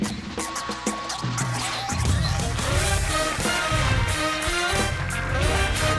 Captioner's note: lively music; audience applauding